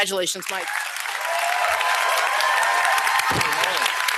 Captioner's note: applause